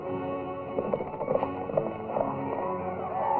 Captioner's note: horse galloping